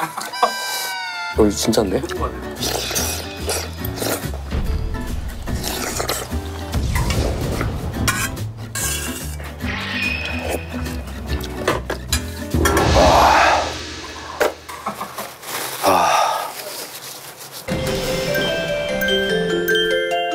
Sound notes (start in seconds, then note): 4.4 slurping crazily